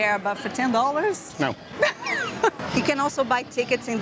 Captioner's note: laughs